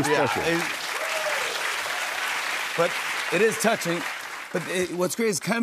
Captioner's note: applause